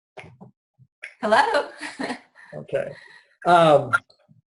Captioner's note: giggles